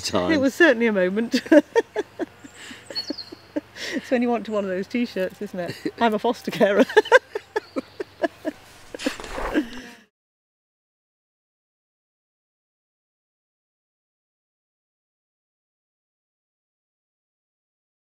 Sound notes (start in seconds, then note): 1.3 chuckles; 6.7 both laugh